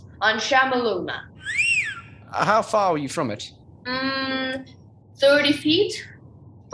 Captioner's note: whistles